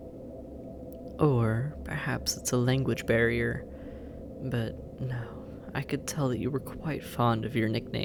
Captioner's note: musing